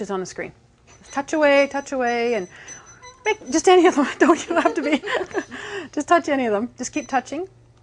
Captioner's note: laughing